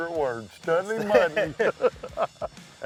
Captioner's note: laughter